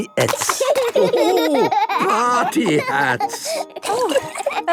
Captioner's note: laughing